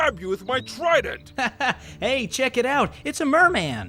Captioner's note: laughing